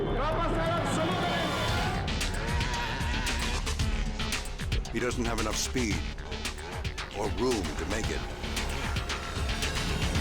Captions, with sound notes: (engine revving) (tense music) He doesn't have enough speed or room to make it.